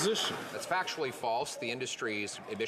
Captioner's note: applause